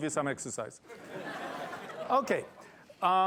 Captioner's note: laughter